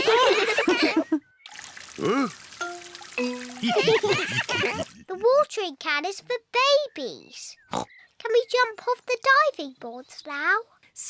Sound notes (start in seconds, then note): 0.0 oinks; 0.0 all laugh; 3.6 all laugh; 7.7 oinks